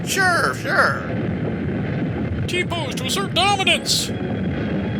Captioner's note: rocks rumbling